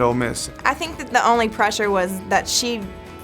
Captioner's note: voiceover